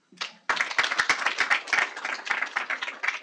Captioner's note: clapping